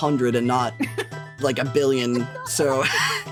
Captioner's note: laughing